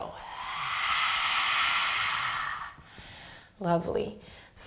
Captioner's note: exhaling loudly